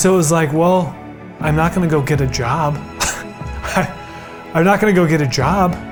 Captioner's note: laughs